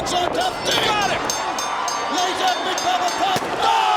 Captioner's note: bell ringing